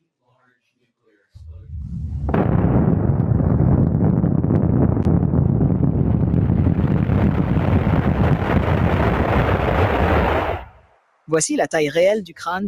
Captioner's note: explosion